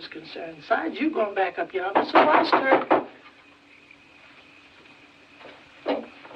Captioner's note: knocking